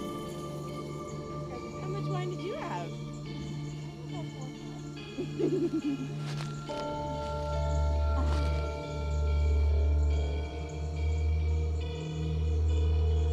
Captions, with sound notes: - How much wine did you have? [chuckles]